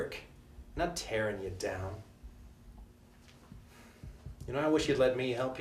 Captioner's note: sighs